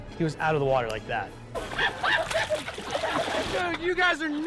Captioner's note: laughing